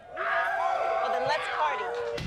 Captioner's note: fans shout